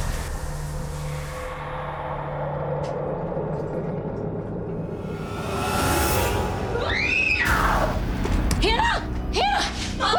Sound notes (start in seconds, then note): 5.1 screams